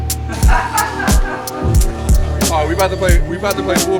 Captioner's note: laughing